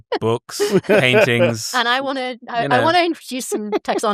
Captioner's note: chuckles; laughter